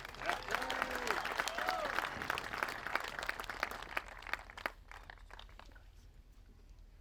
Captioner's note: applause